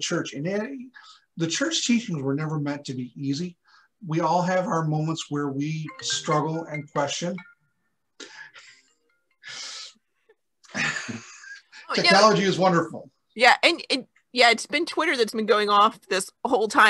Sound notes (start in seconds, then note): 7.2 phone rings & both laugh